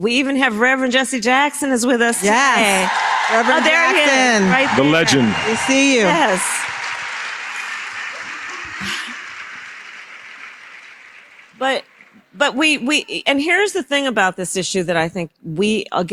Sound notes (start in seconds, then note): 3.1 applause